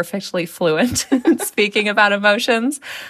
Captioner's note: laughter